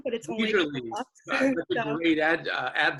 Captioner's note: laughs